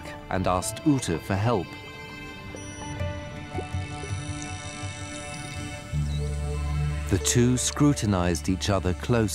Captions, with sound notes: and asked Ute for help. [clicks] The two scrutinized each other closely.